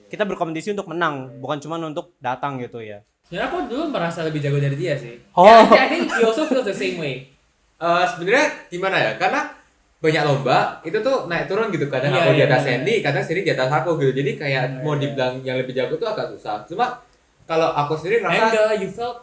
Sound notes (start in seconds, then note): 5.6 laughter